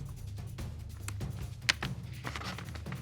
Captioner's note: paper rustling